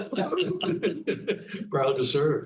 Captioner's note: panelists laughing